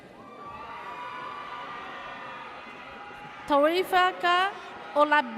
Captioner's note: audience cheers